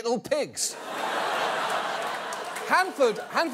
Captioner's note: audience laughs